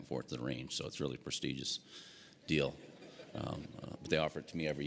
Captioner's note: audience laughing